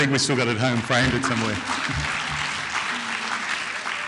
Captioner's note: clapping